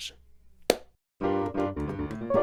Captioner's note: clap